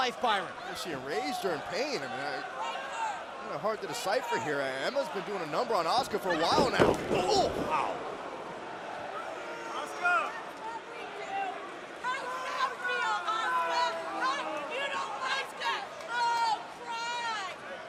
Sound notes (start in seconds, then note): 11.3 crowd chatter